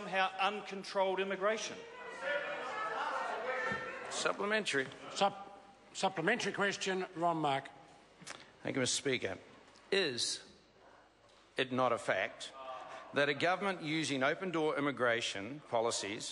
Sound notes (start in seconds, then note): 2.0 members talk loudly